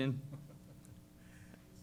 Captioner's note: laughter